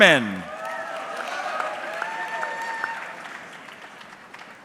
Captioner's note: audience clapping